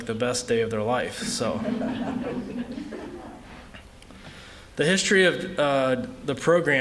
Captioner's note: laughter